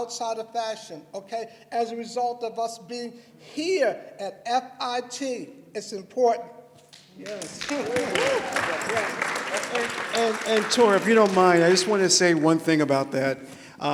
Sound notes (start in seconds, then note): 7.0 applause